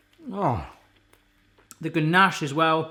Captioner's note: sighing